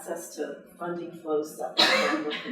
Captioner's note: coughing drowns out speech